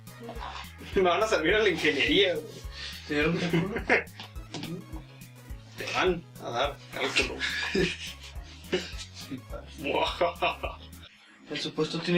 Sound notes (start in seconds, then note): 10.3 evil laugh